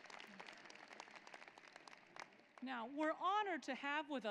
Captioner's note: applause